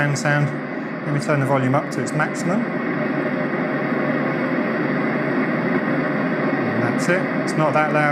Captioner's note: fan sound